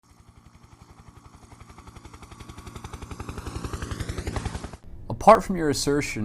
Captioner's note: helicopter in flight